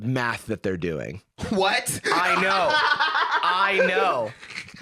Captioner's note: laughs